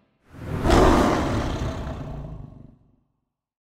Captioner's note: lion roars